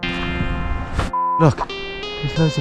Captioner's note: beep